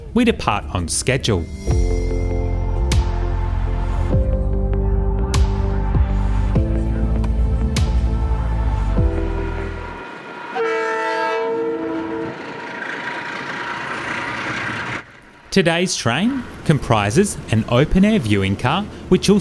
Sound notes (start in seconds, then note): 3.9 train horn